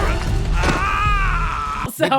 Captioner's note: screams